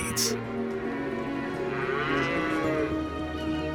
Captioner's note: cows mooing